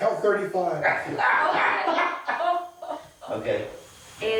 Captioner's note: all laughing